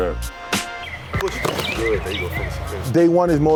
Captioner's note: punching bag thuds